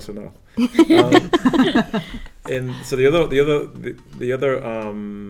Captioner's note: laugh